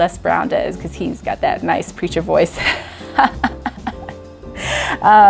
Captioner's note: laughs